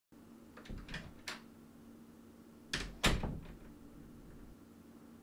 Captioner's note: door opens and closes